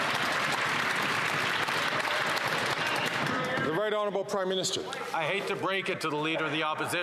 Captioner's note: some Applause